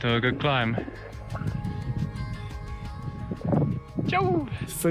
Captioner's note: wind rustling